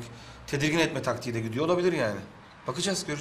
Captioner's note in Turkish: none